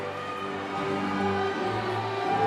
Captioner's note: applause